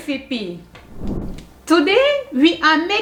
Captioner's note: air whooshing